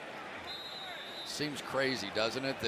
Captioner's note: whistle